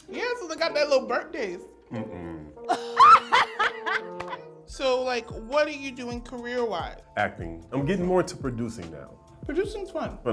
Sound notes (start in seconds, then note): 2.0 laughing; 4.1 clapping